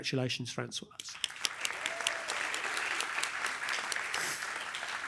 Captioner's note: applause